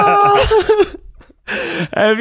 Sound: laughing

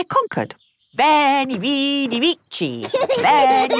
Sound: laughing

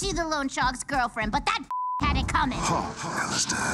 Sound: beep

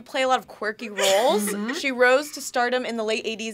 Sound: laughs

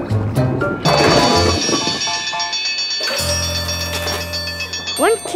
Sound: dinging

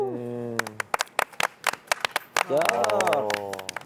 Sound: the rehearsal ended with an applause

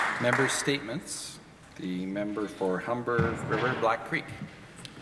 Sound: applause

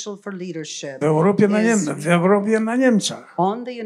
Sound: foreign language

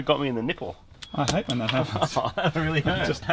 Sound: pinging

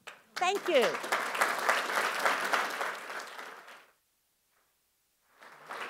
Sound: audience applauding

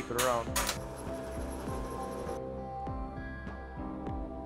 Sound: metal clangs; soft music

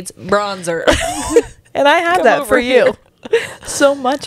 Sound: laughs

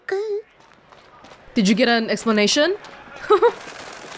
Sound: chuckles

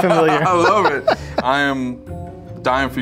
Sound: laughing

